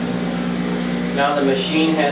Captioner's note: machine roaring